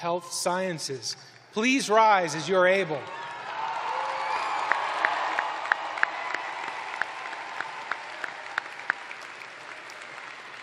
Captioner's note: cheers and applause